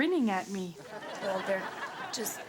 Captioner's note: audience laughs